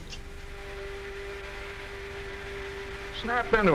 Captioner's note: fanning